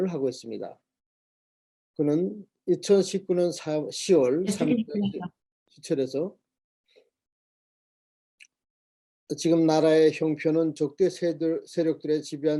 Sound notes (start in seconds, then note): 4.6 speaking Korean